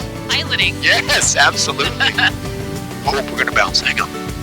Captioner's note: laughing